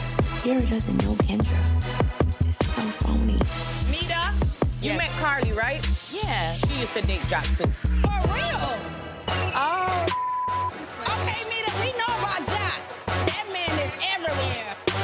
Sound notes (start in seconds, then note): 9.3 beep